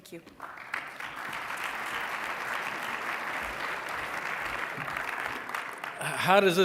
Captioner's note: applause